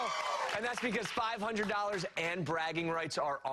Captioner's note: cheers and applause